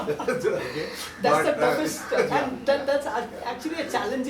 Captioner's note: giggles